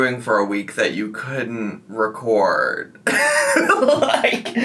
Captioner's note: laughs